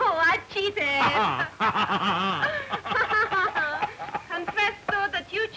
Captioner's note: laughing